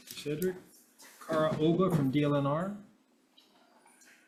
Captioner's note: none